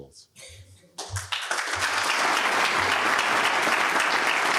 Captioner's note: applause